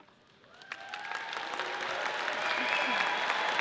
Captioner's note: audience cheers